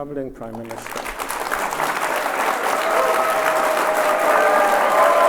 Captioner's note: audience applauds and cheers